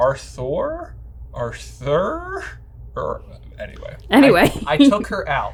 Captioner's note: laughing